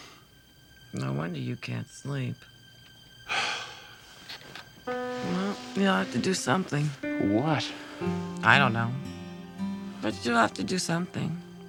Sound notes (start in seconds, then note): 3.3 sigh